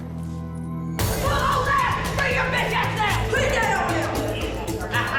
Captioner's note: inmate shouting